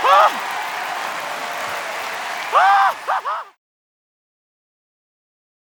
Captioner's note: audience applauding; Doc laughing